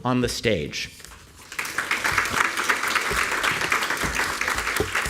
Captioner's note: applause